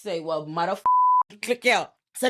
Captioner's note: beep